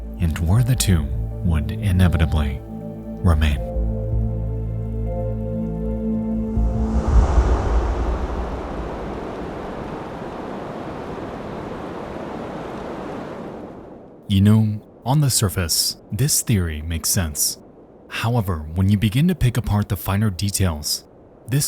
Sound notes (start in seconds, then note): 4.1 eerie music; 6.5 screen whooshes; 8.9 rain pattering; 8.9 wind whooshing